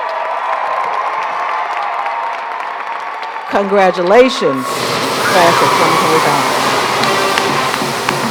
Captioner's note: cheers and applause